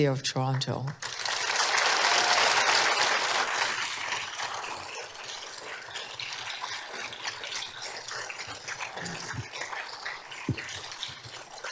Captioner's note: applause